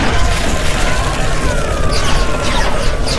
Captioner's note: Captain ruscoe screams